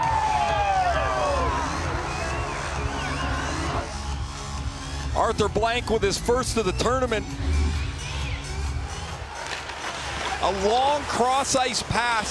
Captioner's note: air sirens